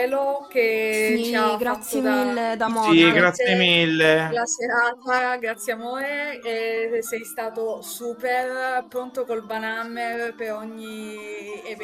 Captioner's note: thanking him in the BG